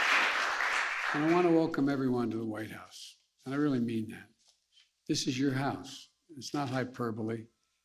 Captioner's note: applause